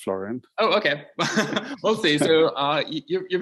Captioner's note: laughs